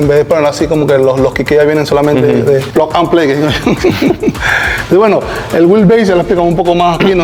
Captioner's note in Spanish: risas